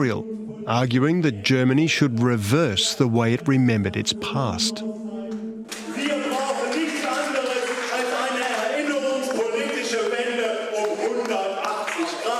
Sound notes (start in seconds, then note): 5.5 speaking German